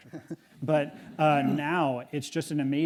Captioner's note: audience chuckle